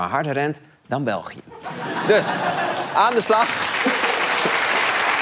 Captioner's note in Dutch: applaus